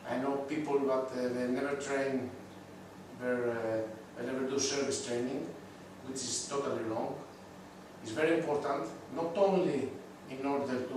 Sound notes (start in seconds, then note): none